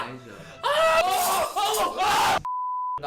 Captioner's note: screaming